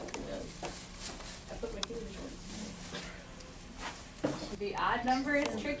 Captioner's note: class lowly talking together; voiceover